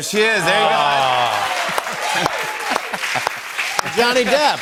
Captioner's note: cheers and applause